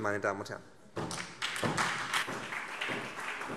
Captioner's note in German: Beifall SPD